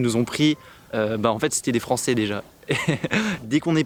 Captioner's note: laughs